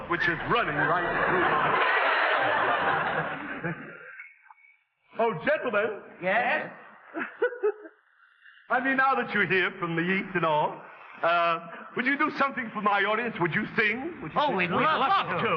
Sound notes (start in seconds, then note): 2.6 audience laughing; 7.0 man laughing